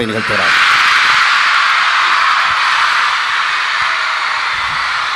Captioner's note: spontaneous applause